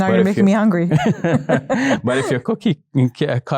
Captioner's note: participants laugh